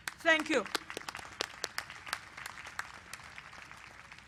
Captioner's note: applause